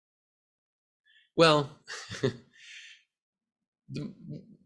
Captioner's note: laughs